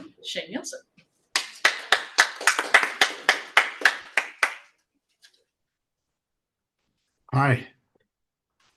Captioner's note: appluse